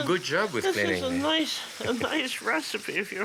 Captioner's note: laughs